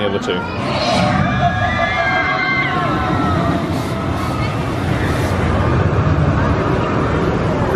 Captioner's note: coaster rumbling; people screaming